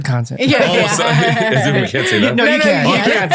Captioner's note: all laughing